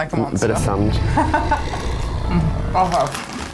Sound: laughs

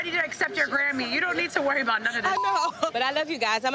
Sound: beep

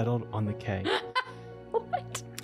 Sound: laughs

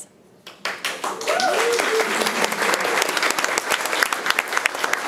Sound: room applauds

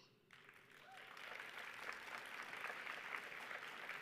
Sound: audience applauding

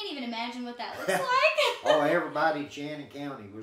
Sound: laughing

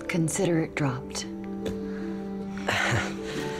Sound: chuckles in relief

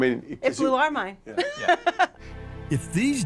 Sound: chuckling

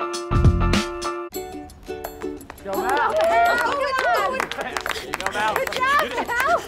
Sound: cheering

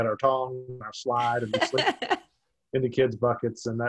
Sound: laughs

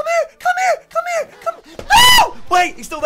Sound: screams

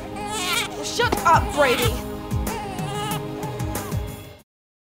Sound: Brady wails

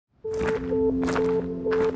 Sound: footsteps in gravel

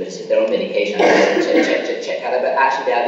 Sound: coughing masks speaker

